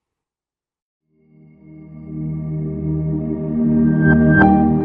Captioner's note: ambient chiming